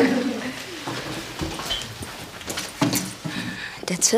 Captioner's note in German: Gelächter